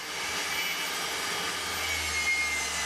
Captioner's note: sounds of sawing